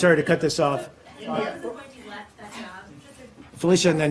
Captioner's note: reporters chattering